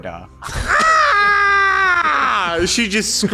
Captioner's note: she screams out of anger